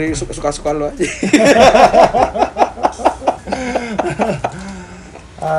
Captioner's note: both laugh